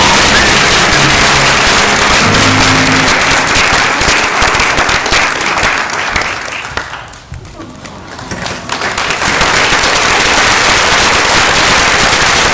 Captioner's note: cheering and applause